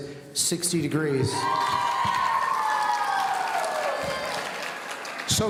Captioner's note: audience cheering